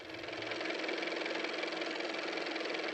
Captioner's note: car motor